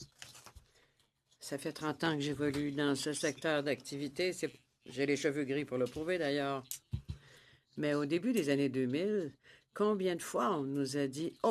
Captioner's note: speaking in French